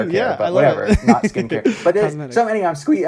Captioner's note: laughs